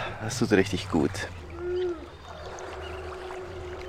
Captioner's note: roaring in the distance